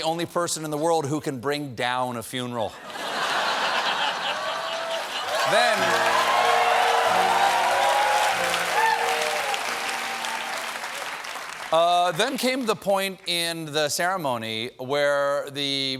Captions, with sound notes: DONALD TRUMP IS THE ONLY PERSON IN THE WORLD WHO CAN BRING DOWN A FUNERAL. ( LAUGHTER ) ( CHEERS AND APPLAUSE ) THEN CAME THE POINT IN THE CEREMONY WHERE THE PRIEST AND